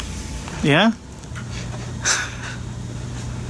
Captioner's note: laughs